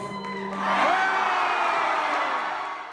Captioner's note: audience goes wild with cheers